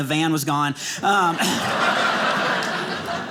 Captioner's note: audience laughing